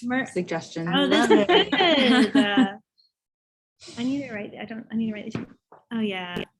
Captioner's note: laughs